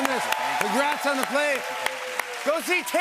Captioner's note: cheers and applause